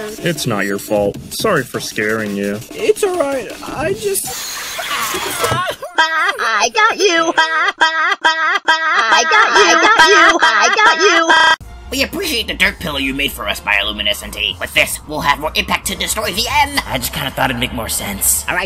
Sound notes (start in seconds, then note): 5.6 printer sobbing